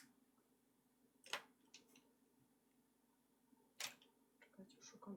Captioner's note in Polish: stukanie kredek